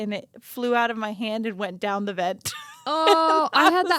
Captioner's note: laughing